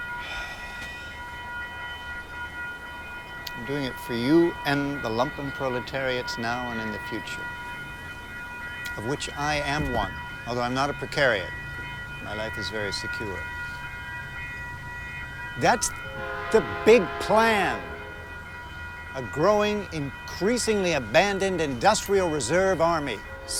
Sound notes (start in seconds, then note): 0.2 Chris sighs; 16.0 train horn blares